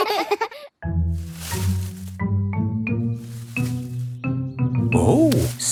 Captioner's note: all giggle; bush rustling